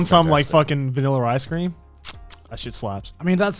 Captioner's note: clicks tongue